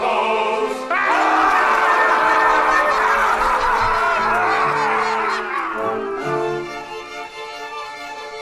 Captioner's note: ghosts cackle